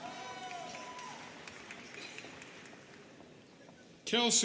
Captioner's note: students cheering